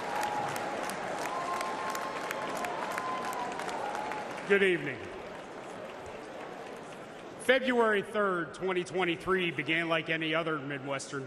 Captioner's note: applause